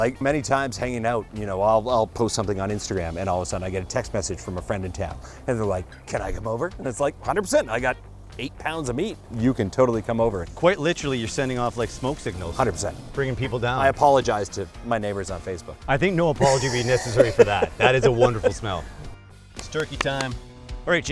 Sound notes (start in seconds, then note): 16.4 laughter